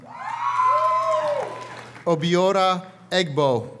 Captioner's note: audience cheers and applauds